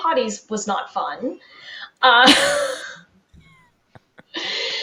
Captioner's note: both laughing